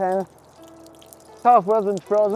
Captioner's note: running water